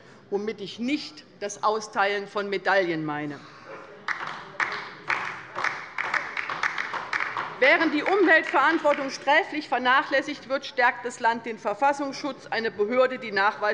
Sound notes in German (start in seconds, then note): 4.0 Beifall bei der LINKEN